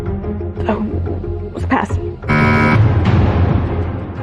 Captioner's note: buzzer sounds